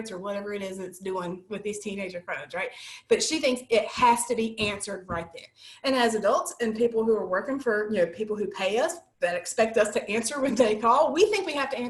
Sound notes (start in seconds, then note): 10.4 laughter